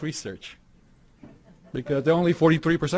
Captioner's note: audience laughing